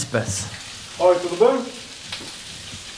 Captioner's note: speaking in portuguese